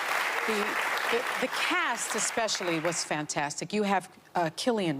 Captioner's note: applause